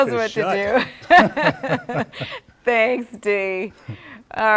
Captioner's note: laughter